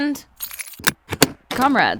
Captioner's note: door latch opens